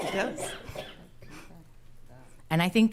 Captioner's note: attendee coughing; speaking quietly